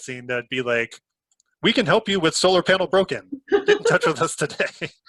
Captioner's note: laughs